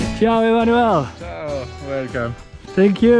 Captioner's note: foreign language